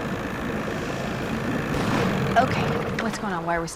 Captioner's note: engine backfires